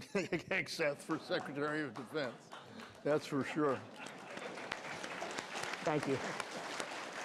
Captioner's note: applause